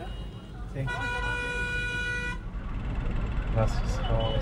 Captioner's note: honking; in Swiss German